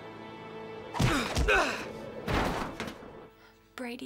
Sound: grunting

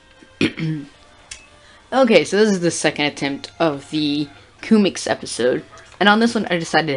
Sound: throat clearing

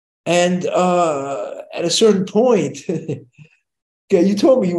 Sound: chuckles

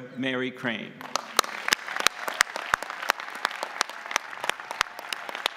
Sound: audience applauding

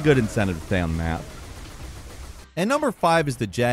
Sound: turrets firing

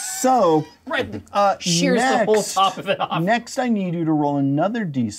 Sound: laughs

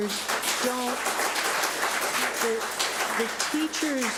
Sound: public applauding

